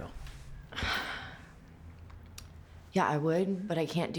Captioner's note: sighs